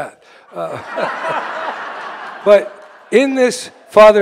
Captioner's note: audience roars with laughter